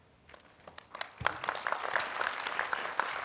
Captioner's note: applause